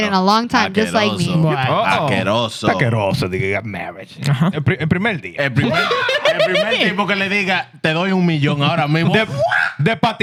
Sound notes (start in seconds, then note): 1.5 speaking In Foreign Language